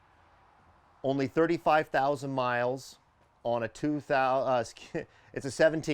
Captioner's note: stammering